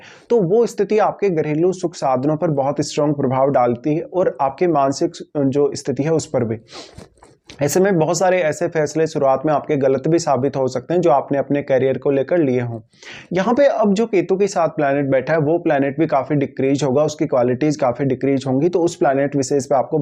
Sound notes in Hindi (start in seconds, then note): 6.6 नाक से की जाने वाली आवाज़